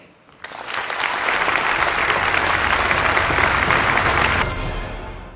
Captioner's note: applause